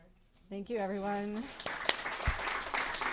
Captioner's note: clapping